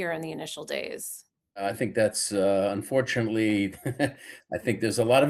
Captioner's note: chuckles